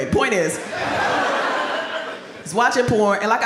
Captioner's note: audience laughs